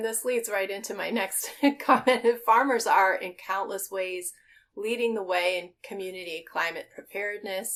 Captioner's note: laughing